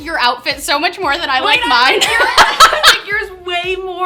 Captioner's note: laughs loudly